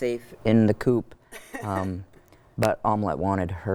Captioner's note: chuckles